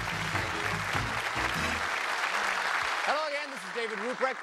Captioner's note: applause